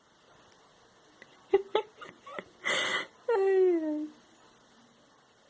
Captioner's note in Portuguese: rindo